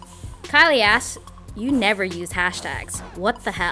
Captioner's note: voiceover